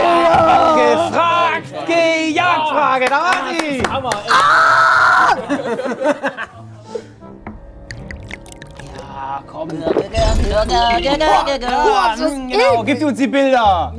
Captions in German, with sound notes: Eine "Gefragt–Gejagt"-Frage. Da war die. Ahhhhh! (Lachen) (Gluckern, bedrohliche Klänge) Ja, komm. (Schlucken) Poah! Poah, ist das eklig! - Gib uns die Bilder.